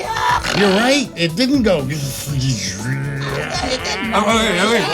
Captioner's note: imitates machine whir